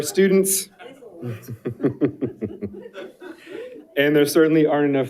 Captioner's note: all chuckles